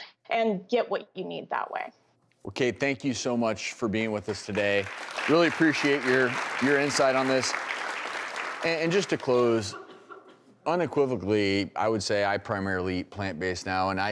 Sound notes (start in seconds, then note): 4.2 applause